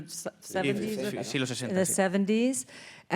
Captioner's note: speaking in Spanish